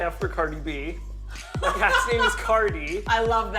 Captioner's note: laughs